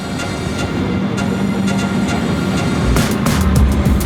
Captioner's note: train; upbeat music